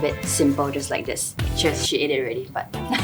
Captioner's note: laughs in Penangite